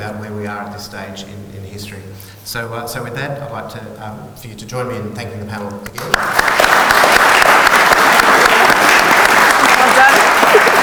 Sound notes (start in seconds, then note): 5.9 audience applauds